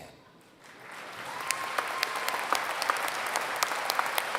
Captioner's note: applause